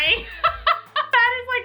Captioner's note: laughs